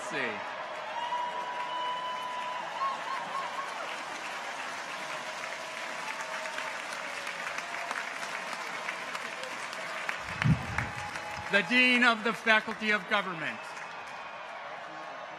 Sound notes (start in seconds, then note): 1.2 audience applauds; 1.2 people cheer